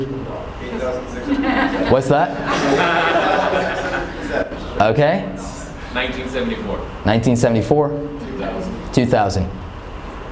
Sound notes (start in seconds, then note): 2.7 laughing